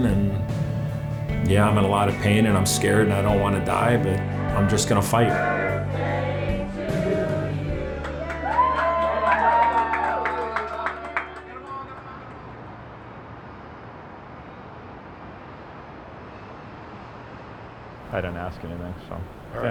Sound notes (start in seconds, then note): 8.5 group applauding; 8.5 group cheering